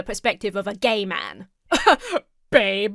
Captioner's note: laughs haughtily